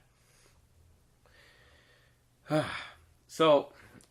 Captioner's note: exhaling